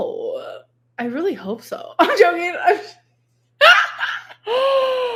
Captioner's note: laughs